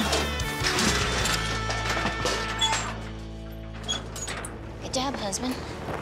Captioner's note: clanging sound